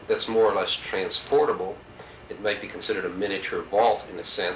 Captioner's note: none